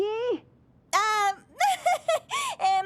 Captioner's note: giggle